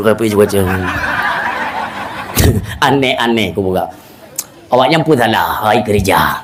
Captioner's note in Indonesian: tertawa